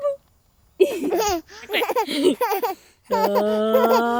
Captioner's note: laughs